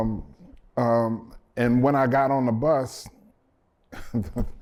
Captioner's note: laughter